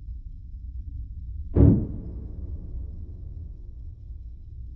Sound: door slams

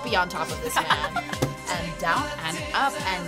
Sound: React laughs

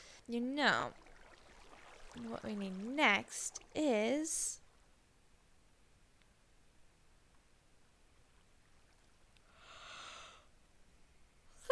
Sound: yawns

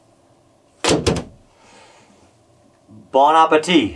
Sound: MRE thuds

